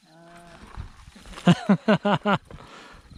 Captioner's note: laughs